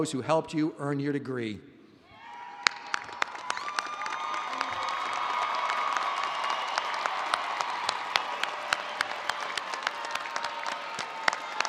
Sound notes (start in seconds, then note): 2.1 all cheering and applauding